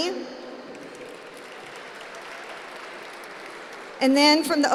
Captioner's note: applause